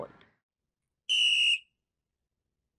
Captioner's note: whistle blowing